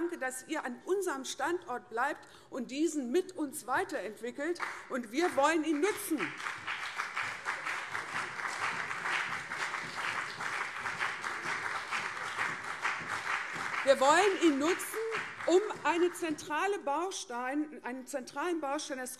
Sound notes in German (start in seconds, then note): 5.1 Beifall CDU und SPD